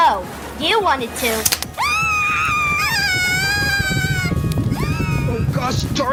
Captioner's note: screaming